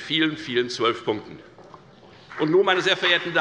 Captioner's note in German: Beifall bei der FDP